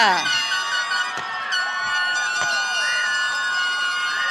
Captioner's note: audience cheering